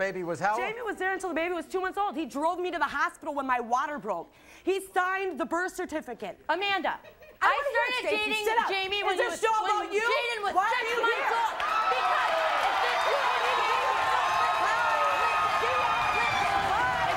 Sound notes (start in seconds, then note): 11.5 crowd cheering